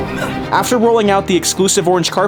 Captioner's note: grunts